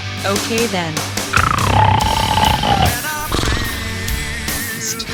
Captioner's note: snoring